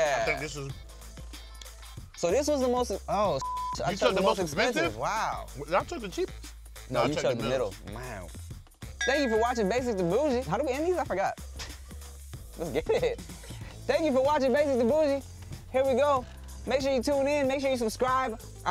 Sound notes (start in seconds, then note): 3.4 beep